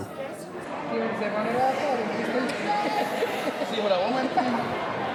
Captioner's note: guests chattering